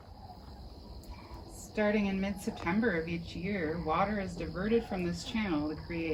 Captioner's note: various bird noises